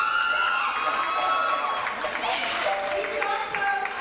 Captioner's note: audience cheers